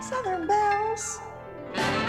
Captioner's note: sweet voice